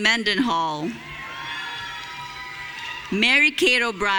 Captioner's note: audience cheering